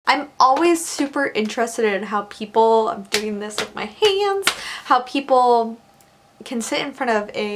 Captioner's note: claps